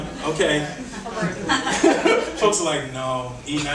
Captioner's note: audience laughing; laughs